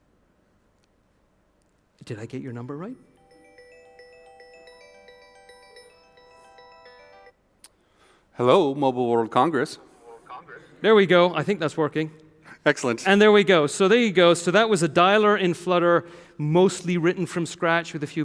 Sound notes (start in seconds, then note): 3.2 phone ringing